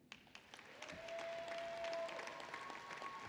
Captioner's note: applause